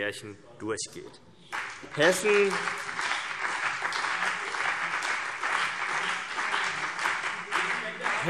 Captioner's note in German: Beifall BÜNDNIS 90/DIE GRÜNEN und vereinzelt CDU